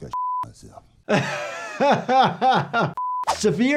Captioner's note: doctor laughs